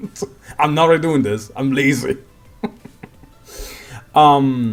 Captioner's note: hmhmhmhm